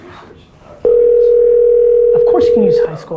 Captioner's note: phone ringing